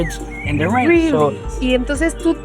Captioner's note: sounds of birds chirping